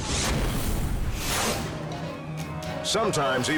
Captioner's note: squashing sound